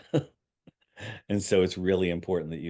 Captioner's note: chuckling